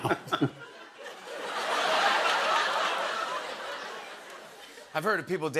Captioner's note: laughter